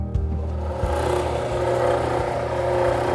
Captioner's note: machine grinds